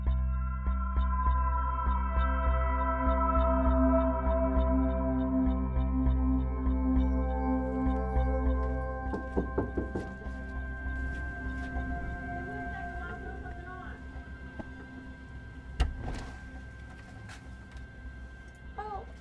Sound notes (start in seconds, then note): 0.0 suspense music; 9.1 door knocking; 15.8 door clicking